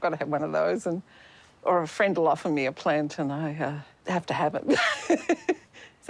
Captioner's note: laughs